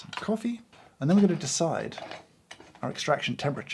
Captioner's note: lid screws